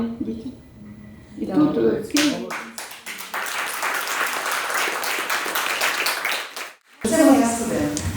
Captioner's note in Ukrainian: оплески